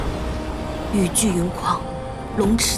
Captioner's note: the storm and rain rage